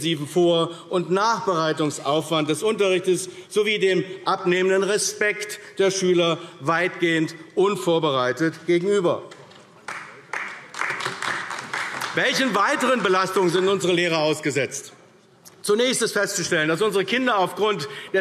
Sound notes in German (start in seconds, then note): 9.8 Beifall AfD